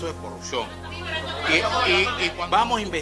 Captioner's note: press clamoring